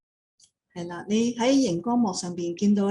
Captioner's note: speaking in foreign language; non-english speech